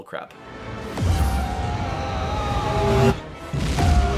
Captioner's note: G-force induced screams